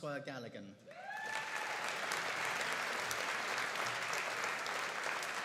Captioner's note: audience cheering and applauding